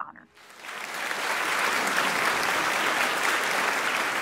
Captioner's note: audience clapping